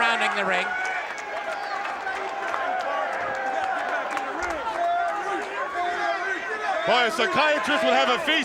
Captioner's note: applause